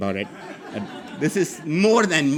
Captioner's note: audience laughing